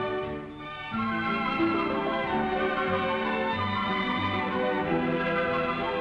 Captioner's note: none